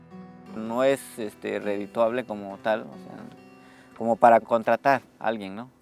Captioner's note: speaks in foreign language